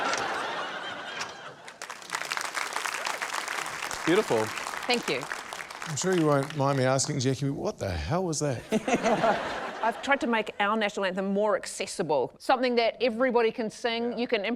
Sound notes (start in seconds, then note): 0.0 laughter; 1.6 applause; 8.6 laughter